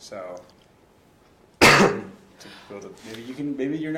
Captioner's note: coughs